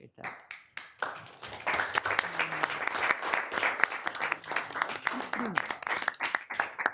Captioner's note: people applauding